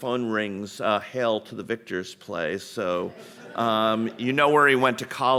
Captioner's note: audience laughing